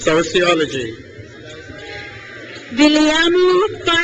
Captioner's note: crowd cheers